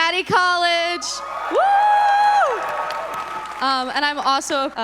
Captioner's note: audience members cheering